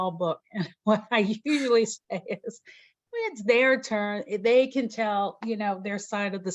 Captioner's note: chuckles